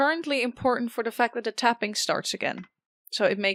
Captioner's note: metallic tapping begins again